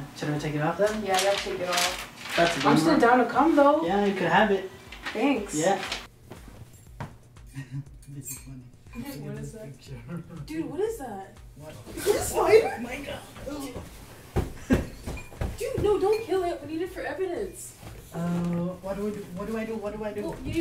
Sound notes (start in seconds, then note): 6.2 laughing